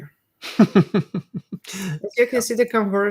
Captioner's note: group laughing